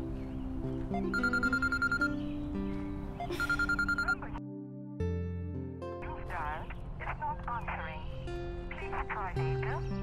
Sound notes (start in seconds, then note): 0.5 phone ringing